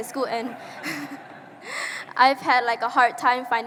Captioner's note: audience laughing